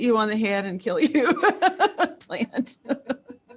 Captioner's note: laughs